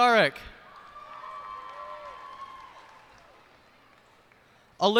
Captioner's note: cheers and applause